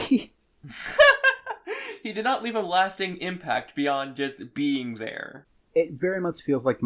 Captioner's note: laughs